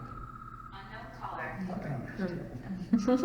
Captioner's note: cell phone rings; laughs